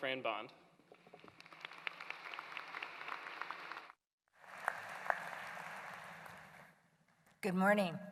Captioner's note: applause